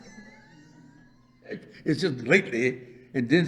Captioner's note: laughs